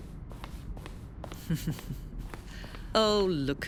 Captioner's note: creator laughing